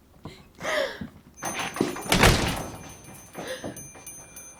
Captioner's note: door slams. Bell rings